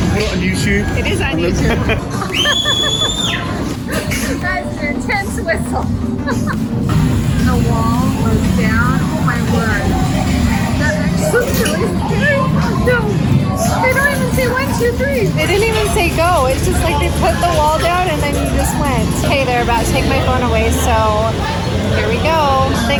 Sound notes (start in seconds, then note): 2.2 whistles; 3.7 laughs; 6.0 laughing